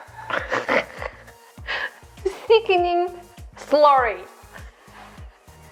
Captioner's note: laughs